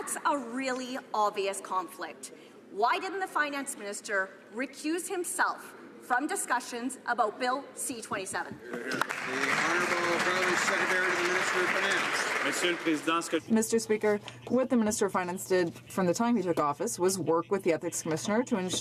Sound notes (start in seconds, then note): 11.9 some Applause